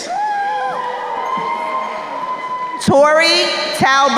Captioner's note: crowd cheering